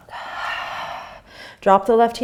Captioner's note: exhaling